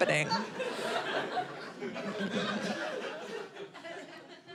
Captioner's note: audience laughing